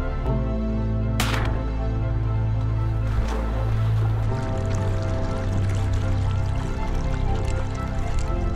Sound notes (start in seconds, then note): 2.7 gunshot; 4.6 splashing sounds